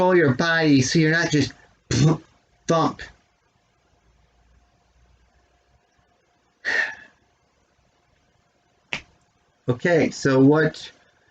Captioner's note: sighs